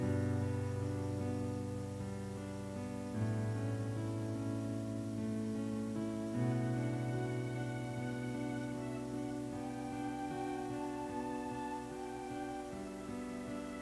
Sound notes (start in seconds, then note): 6.7 pitch increases